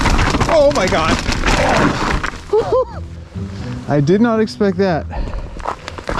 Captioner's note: laughs